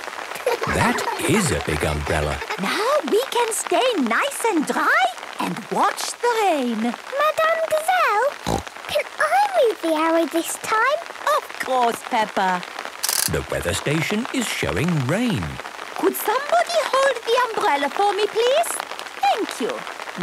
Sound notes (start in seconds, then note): 0.3 laughter; 8.4 snorting